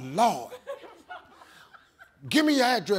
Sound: audience laughs

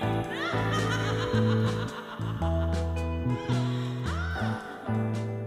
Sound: evil laugh

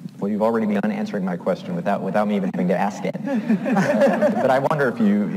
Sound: laughs

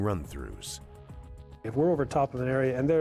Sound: voiceover

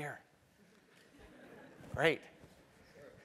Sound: laugh

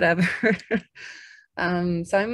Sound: chuckles

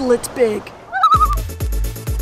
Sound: loon call

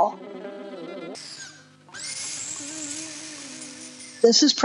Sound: mechanical background sounds

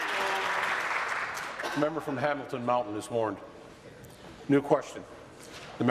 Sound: applause

